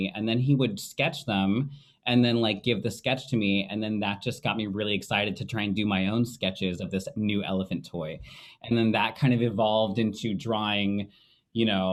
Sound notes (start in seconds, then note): none